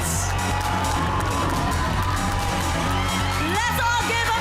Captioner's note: cheering continues